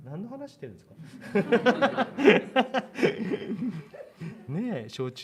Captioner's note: laughter